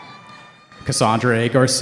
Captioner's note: cheering